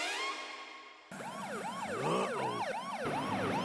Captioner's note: police siren wailing